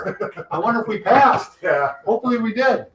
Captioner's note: laughs